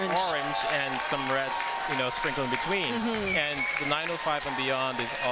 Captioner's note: applause and cheering